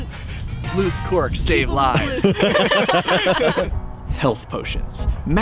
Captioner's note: laughs